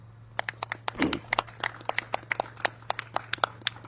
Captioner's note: all clapping